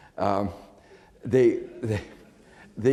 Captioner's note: laughs